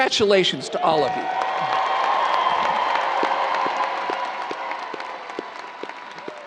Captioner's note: audience cheering and applauding